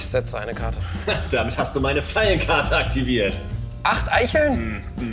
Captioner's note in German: triumphal